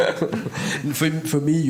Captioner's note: laugher